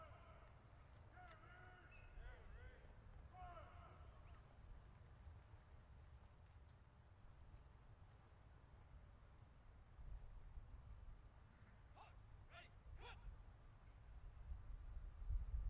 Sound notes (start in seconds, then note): 9.4 soldiers continues shouting commands